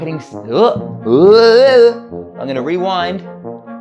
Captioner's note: blubbering